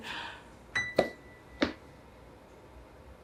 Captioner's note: bell dings